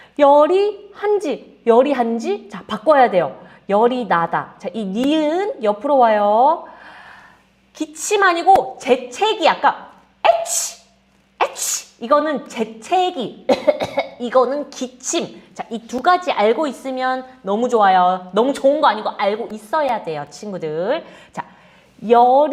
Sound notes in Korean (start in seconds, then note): 0.0 헉 소리; 9.1 재채기; 13.4 기침; 13.5 재채기; 13.5 목을 가다듬음